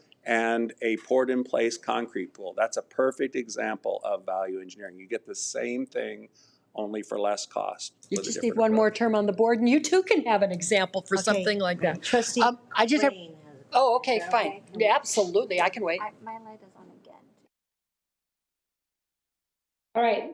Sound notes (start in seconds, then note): 12.4 both chattering; 16.1 woman speaks faintly